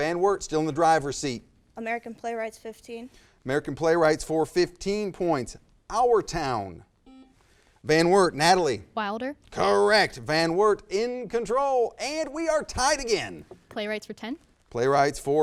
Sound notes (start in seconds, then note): 7.0 buzzer